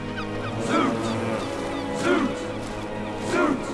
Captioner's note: chanting